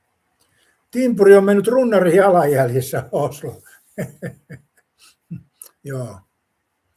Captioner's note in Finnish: naurua